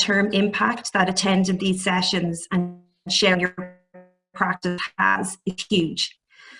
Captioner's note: audio distorts